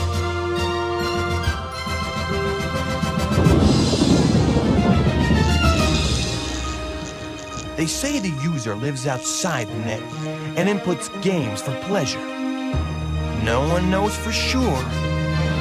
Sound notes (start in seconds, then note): 2.4 thundering; 5.5 crackling